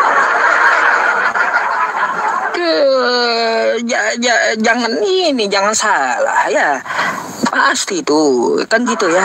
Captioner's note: laughs